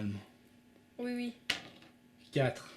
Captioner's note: die roll